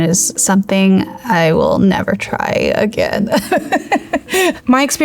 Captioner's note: laughs